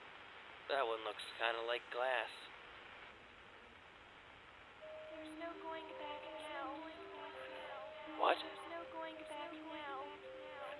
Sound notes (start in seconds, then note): 7.5 echoing; 10.2 echoing